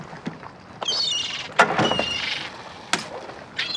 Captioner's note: squawking